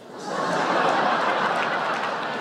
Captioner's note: laughter